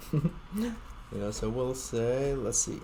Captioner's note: chuckling